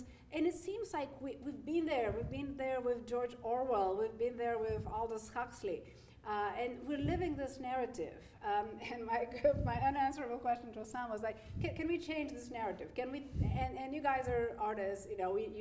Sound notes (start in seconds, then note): none